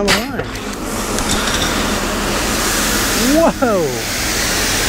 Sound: hose gushing water

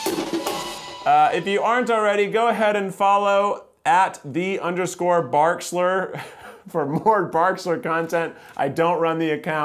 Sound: laughter

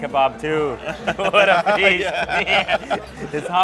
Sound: they laugh

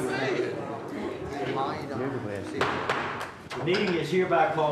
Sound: gavel bangs

